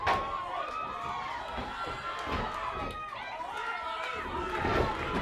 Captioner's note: audience jeering